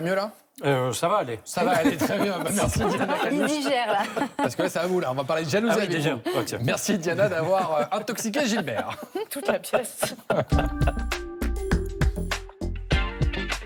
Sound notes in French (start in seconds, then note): 1.6 rires; 7.1 rires